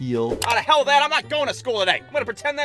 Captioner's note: button clicking